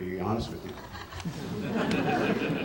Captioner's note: laughter